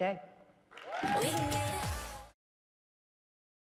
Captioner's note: audience cheering